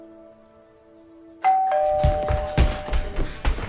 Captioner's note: doorbell rings; skipping footsteps